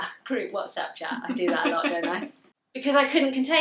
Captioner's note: laughs